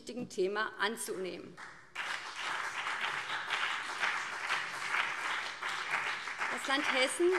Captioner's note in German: Beifall BÜNDNIS 90/DIE GRÜNEN